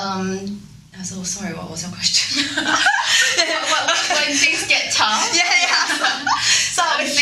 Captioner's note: laughing